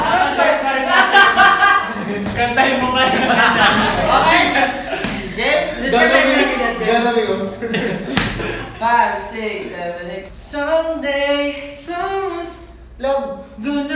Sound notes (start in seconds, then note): 3.0 laughing